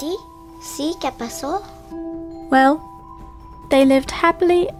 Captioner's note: Turkish; Spanish